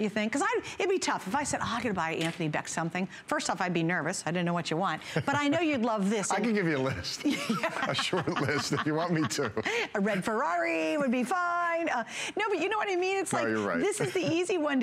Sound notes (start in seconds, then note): 5.2 laughter; 7.2 laughter